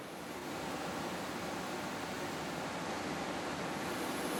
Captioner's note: motors humming